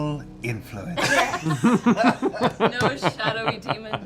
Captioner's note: laughter